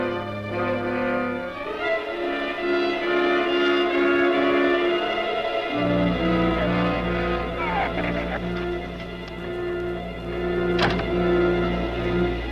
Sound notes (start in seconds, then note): 7.5 shrew chatters; 10.5 door slams; 12.3 muffled wind howls; 12.3 suspenseful music continues